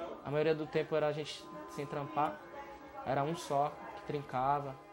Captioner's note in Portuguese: Vozes ao fundo